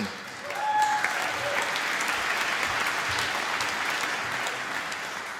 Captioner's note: applause